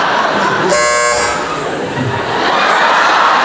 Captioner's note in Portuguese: campainha